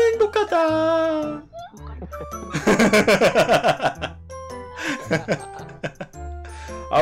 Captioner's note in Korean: 웃음